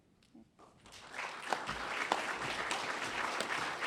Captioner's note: applause